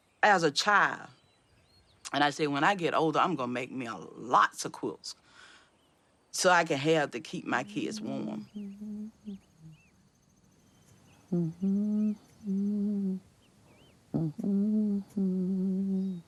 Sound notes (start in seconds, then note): 9.5 humming